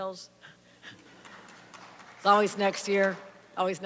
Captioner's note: applause; chuckles